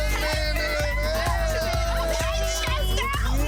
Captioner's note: people speaking indistinct